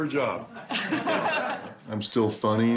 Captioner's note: laughs